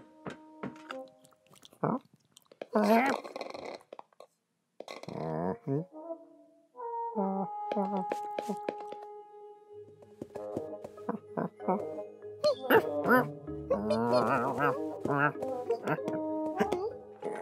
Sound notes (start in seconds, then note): 1.3 kitten eating noisily